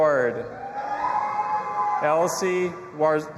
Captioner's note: audience applauding and cheering